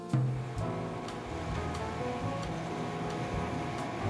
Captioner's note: truck whirring